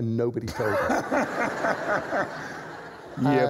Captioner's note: laughter